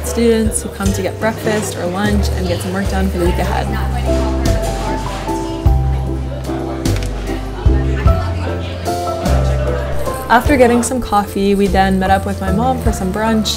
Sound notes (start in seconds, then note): 5.6 gentle music; 5.6 people chatting quietly